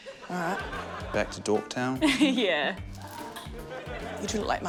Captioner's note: laughs